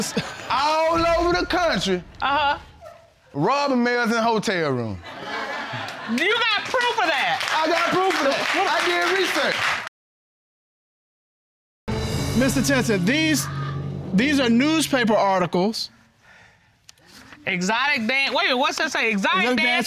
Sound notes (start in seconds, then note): 5.0 laughter; 9.0 audience clapping